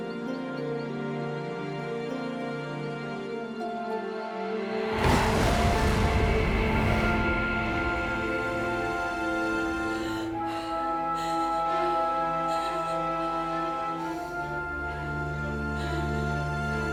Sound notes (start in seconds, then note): 4.9 loud rumbling; 9.0 heavy breathing